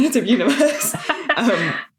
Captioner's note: laughing